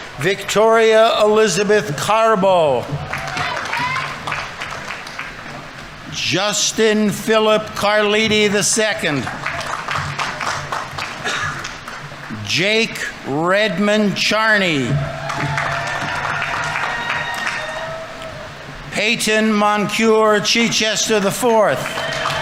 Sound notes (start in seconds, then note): 2.6 audience applauding; 9.4 audience applauding; 14.4 audience members cheering; 14.8 audience applauding; 22.1 audience applauding; 22.1 audience members cheering